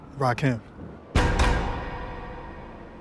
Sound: bars clink

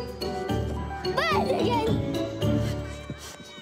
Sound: yells

